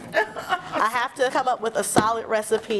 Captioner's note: laughter